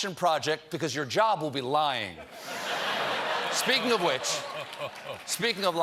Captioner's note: laughter